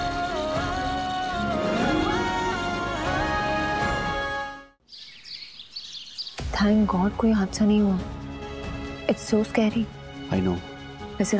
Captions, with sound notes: [birds chirping] Thank God, they were safe. - It's so scary. - I know.